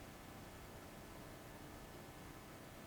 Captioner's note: none